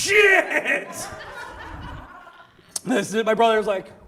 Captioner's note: audience laughs